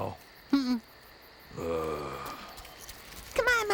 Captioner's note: groans